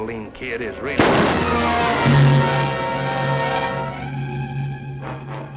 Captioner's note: gun shot